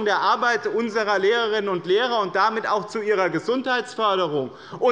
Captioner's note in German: none